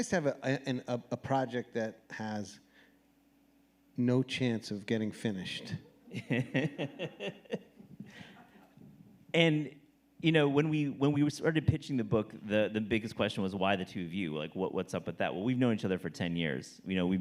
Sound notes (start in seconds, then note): 6.0 laughing